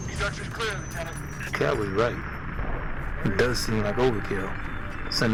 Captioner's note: radio